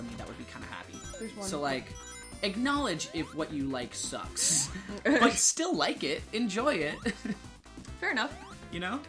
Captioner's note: both laughing